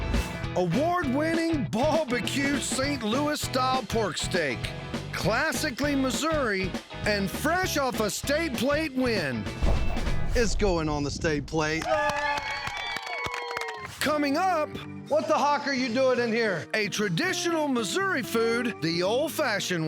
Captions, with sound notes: AWARD-WINNING BALD BQ ST. LOUIS STYLE PORK STEAK. CLASSICALLY MISSOURI AND FRESH OFF A "STATE PLATE" WIN. IT'S GOING ON THE STATE PLATE. [CHEERING, CLAPPING] COMING UP... WHAT THE HOCK ARE YOU DOING IN HERE? A TRADITIONAL MISSOURI FOOD THE OLD-FASHIONED WAY.